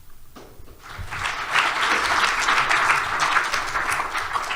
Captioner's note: applause